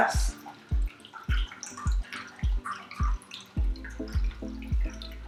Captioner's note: martini pouring